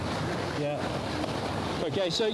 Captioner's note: water splashing